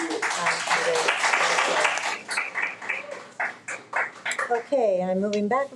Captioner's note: audience applauds